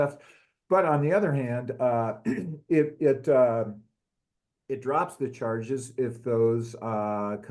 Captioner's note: cough